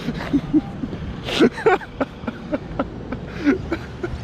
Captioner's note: laughs